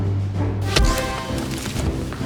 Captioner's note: blap